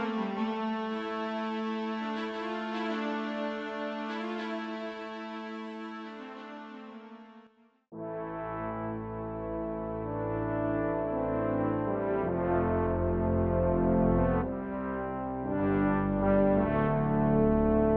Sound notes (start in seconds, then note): none